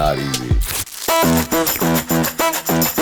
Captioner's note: plastic crinkles; upbeat guitar music